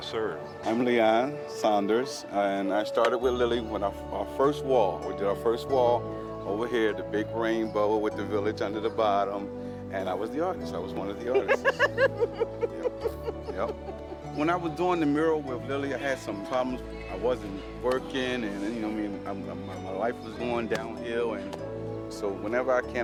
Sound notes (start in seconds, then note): 11.2 laughs